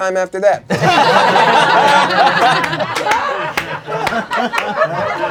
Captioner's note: crowd laughing and applauding